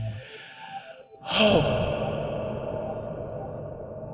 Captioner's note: exhaling